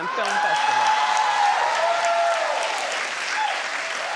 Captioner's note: audience cheers